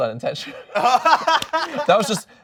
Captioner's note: laughing